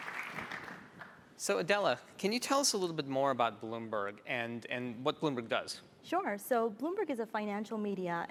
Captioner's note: applause